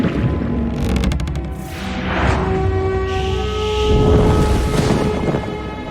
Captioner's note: Angestrengte Laute, Stöhnen